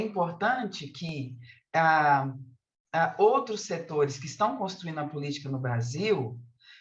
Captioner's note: continues speaking in Portuguese